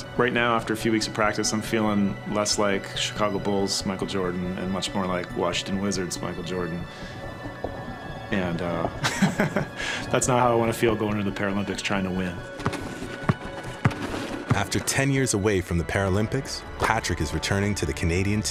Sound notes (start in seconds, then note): 8.7 chuckling; 12.5 ball thudding